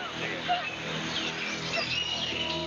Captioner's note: crying